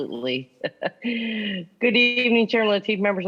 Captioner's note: laughing